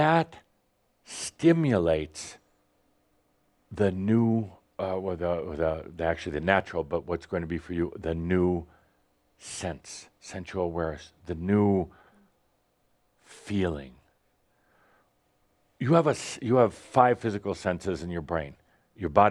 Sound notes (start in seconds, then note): none